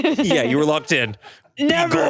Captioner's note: chuckles